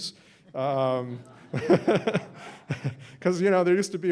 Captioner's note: laughter